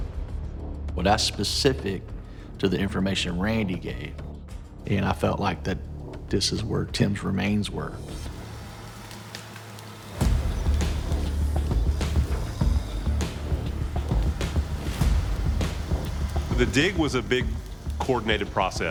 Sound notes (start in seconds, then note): 7.7 engine whirring; 7.7 tree creaking; 9.7 dramatic music playing